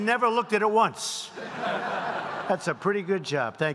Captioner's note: laughter